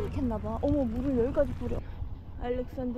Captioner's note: sprinklers working hard